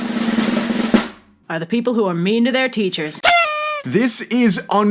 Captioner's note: fweet